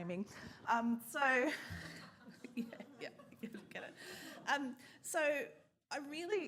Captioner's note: scattered laughter